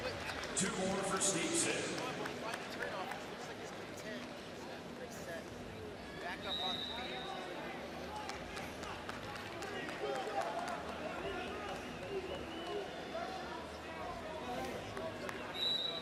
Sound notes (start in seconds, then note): 6.5 whistle blows; 8.2 crowd clapping